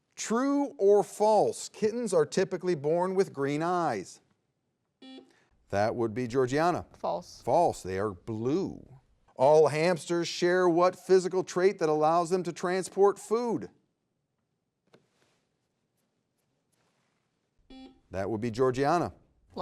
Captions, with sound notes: True or false, kittens are typically born with green eyes? (buzzer beeps) That would be Georgianna. - False. - False, they are blue. All hamsters share what physical trait that allows them to transport food? (buzzer beeps) That would be Georgianna.